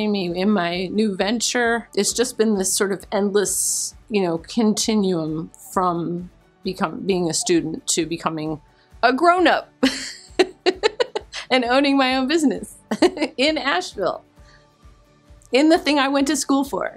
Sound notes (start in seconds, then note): 9.8 chuckles